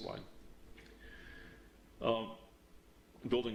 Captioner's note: pause